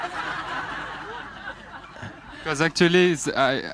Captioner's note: laughter